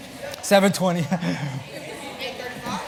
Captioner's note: chatter; laugh